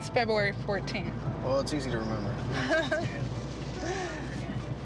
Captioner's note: laughs